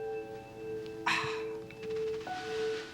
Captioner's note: sighs